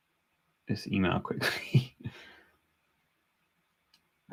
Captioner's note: laughs